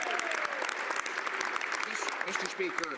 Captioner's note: speaking French; some Applause